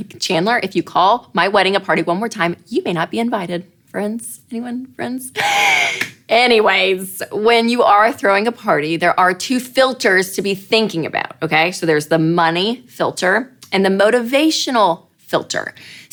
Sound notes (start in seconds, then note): 5.3 inhaling